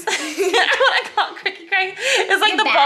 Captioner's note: laughs